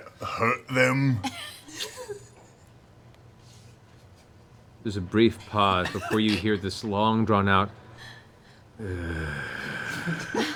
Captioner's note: heavy sigh